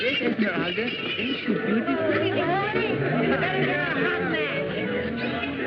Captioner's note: chatter